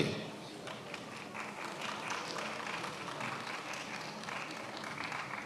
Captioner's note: attendees applauding